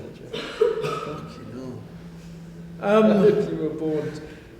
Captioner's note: laughter